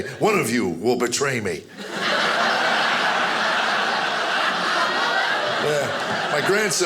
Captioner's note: audience laughing